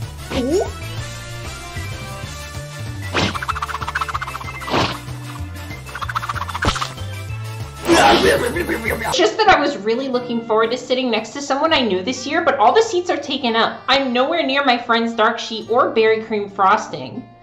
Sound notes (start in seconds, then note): 8.0 furry eating noises